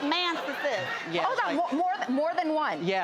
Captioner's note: laughter